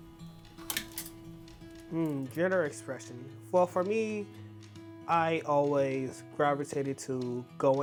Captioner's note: quiet music continues; hangers clattering